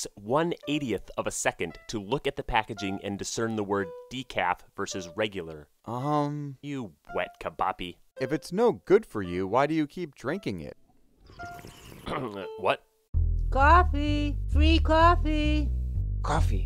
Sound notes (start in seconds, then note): 11.3 slurping